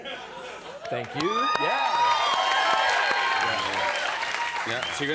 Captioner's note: cheers